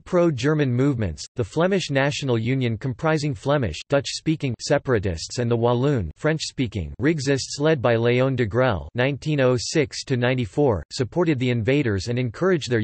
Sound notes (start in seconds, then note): 3.8 dutch-speaking; 6.4 french-speaking